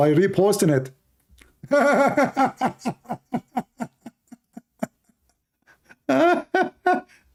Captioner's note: Ketawa